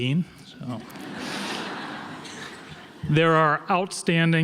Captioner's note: audience laughs